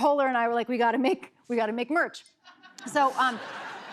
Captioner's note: laughter